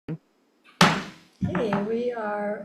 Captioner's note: gavel clanks